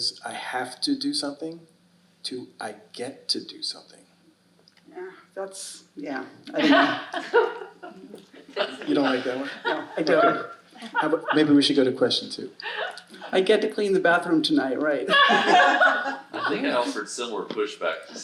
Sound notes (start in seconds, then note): 6.5 audience laughing; 15.1 audience laughing